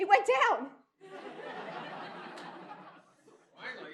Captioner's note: laughter